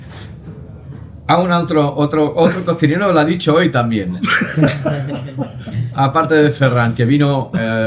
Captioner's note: laughter